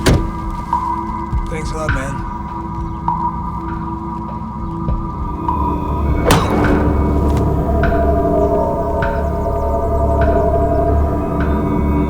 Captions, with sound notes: Thanks a lot, man. (tense music) (thudding) (grunting)